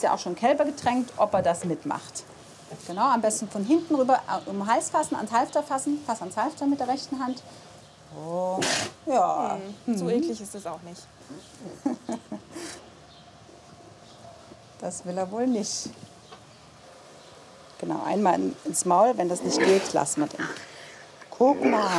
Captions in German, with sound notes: Du hast ja schon Kälber getränkt. Du kannst von hinten über den Hals ans Halfter fassen. Fass ans Halfter mit der rechten Hand. *Das Kamel schnieft.* So eklig ist das nicht. Das will er wohl nicht. Einmal ins Maul, wenn das nicht geht, lassen wir den.